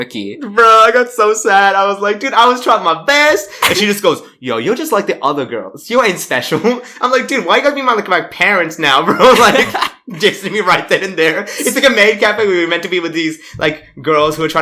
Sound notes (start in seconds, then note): 9.0 laughs